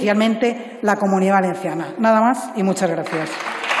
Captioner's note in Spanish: Aplausos